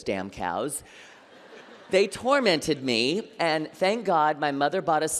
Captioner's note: laughter